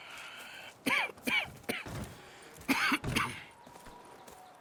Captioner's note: Arthur coughs again